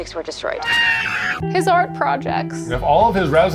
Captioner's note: screams